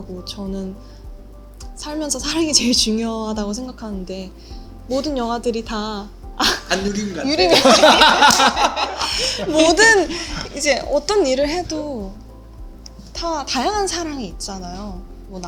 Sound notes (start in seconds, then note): 8.2 laugh